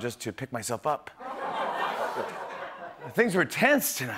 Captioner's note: laughter